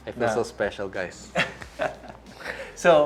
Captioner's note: chuckles